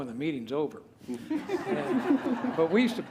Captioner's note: laughter